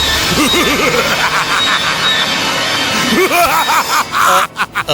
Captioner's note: cackles evily